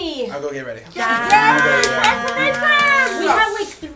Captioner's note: cheering